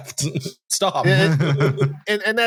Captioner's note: laughter